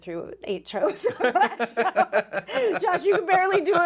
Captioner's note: both laughing